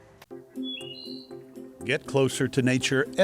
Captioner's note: birds singing